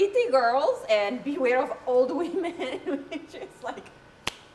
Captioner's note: laughing; claps